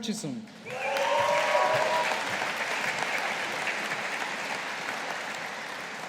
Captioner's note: audience applauding